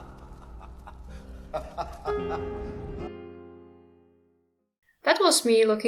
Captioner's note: Daemon laughing